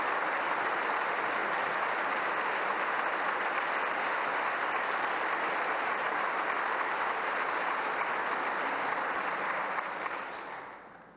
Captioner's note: applause